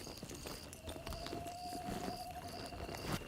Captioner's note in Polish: pohukiwanie sów